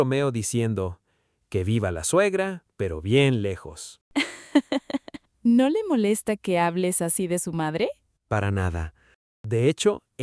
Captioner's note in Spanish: risas